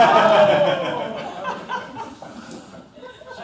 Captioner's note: laughter